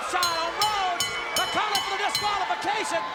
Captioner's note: bell rings